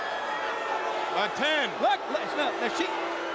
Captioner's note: crowd chatter